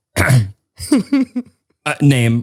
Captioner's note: giggles